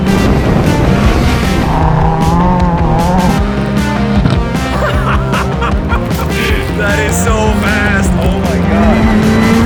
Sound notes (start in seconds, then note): 4.6 laughing